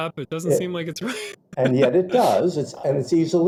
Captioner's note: chuckle